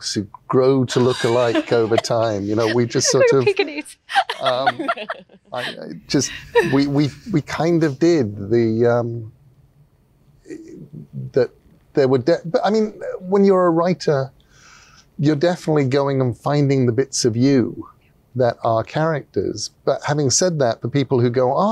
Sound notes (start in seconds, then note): 0.9 laughs